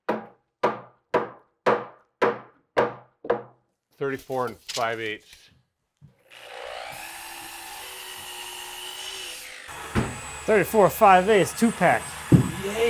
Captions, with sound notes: (hammer thumping) - 34" and 5/8". (drill whirring) - 34", 5/8", two pack. (ladder thumping)